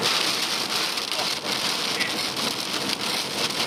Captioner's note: rain pattering